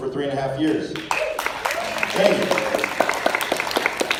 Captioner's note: applause, cheers